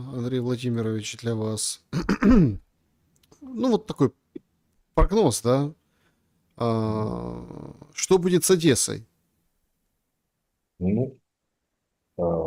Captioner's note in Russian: откашливается